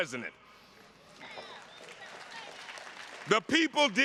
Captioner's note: attendees clapping